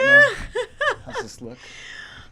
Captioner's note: laughs